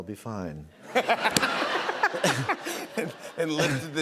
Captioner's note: laughter